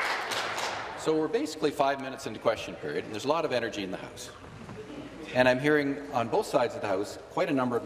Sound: applause

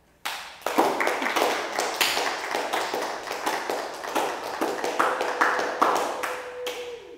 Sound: the Claps

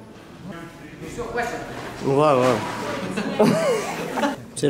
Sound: laughs

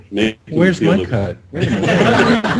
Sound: crowd: LOL!

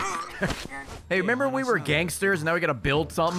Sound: laughs

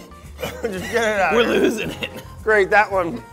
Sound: chuckles

